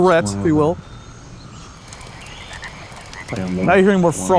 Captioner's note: fauna chirping and chittering